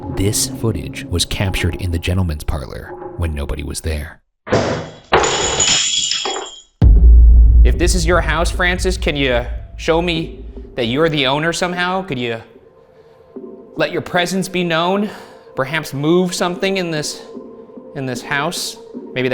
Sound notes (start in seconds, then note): 4.6 objects clatter; 4.6 glass shatters